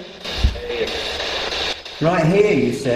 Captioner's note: static buzzing